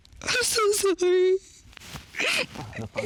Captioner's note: sobs